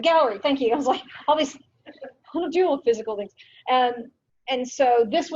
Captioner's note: stammers